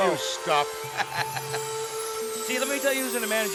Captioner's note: laughs